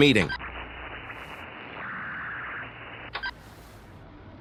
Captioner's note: commlink static